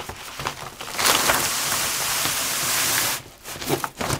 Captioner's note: scraping noise